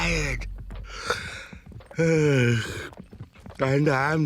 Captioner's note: yawning